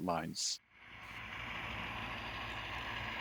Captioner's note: Noise returns, F7B's prime mover is on point